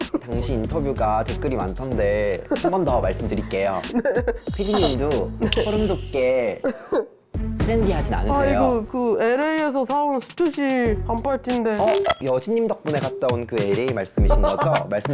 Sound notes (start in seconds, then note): 11.7 SFX: competitive tone